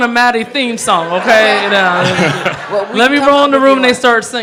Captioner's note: audience laughing